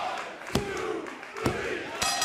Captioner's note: bell ringing